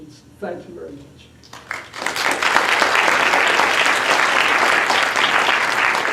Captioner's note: applause